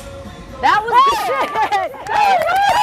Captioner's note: both scream